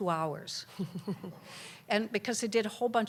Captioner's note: laughter